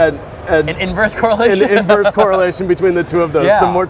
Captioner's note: laughing